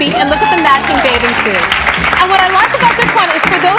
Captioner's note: audience clapping